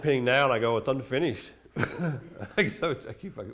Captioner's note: laughs